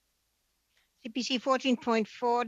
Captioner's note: speaking French